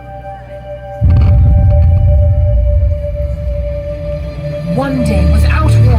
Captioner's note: thunderous boom